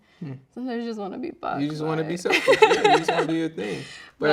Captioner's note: laughing